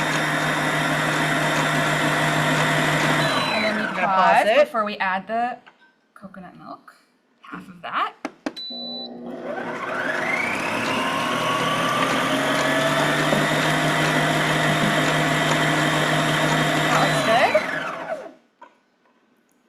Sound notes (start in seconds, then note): 0.0 mixer whirs; 8.2 mixer beeps; 10.3 mixer whirs